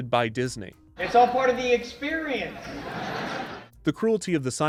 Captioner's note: crowd laughter